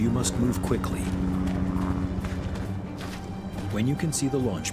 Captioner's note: helicopter whirring